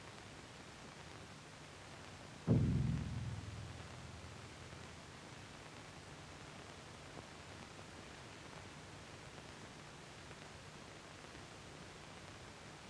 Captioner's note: gunshot booms in the distance